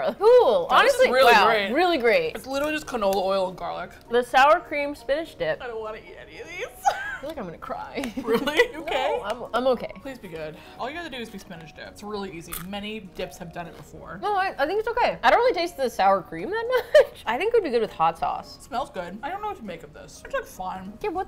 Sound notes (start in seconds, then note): 6.8 laughs; 7.9 laughs anxiously; 16.7 laughs